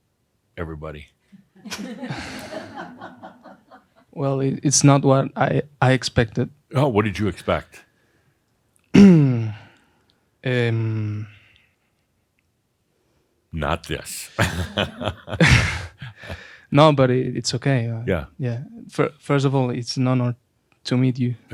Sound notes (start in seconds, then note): 2.6 a few chuckles; 11.4 clears throat; 14.1 Adamus chuckles